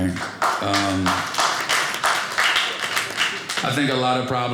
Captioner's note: audience applauding